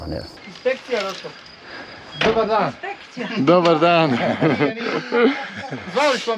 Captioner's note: laughs